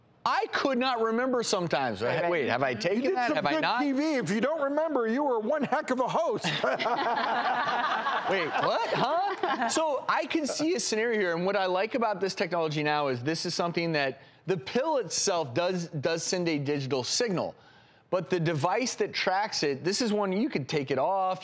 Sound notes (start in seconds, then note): 6.4 laughs